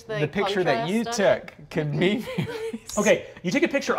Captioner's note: laughing